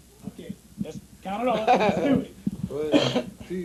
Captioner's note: laughter